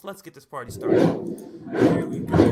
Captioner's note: whooshing